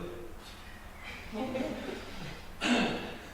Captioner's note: audience laughter